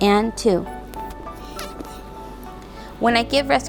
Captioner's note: exhales